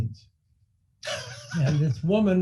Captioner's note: laughing